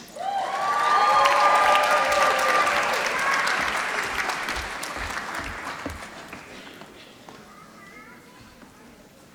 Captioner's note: applause